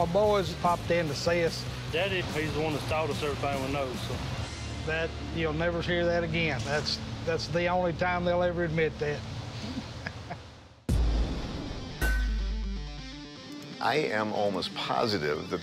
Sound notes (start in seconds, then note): 11.2 laughs; 12.0 iron clanking